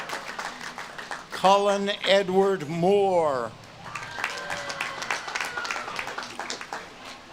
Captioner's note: audience claps and cheers